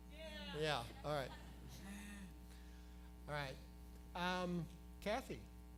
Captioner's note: laughter